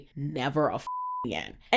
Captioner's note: beep